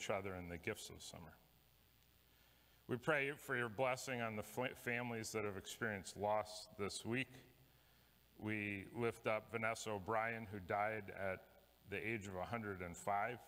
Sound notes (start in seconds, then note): none